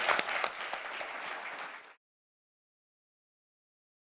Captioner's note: applause